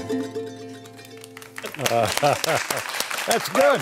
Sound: applause and laughter

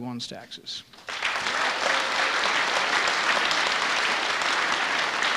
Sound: audience applauding

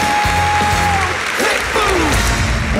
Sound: audience clapping; man, Singing

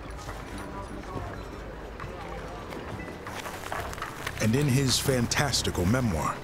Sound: men chattering in distance

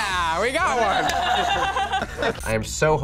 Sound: laughing

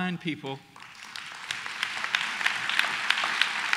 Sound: applause

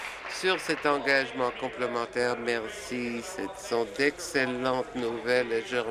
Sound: applause

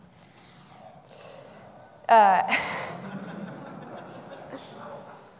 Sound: audience laughing

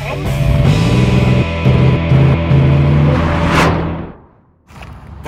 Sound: vehicle engine revving

